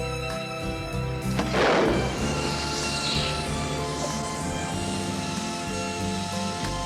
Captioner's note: air hissing